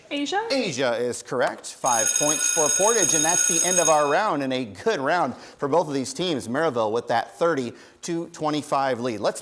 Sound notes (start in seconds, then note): 1.8 school bell ringing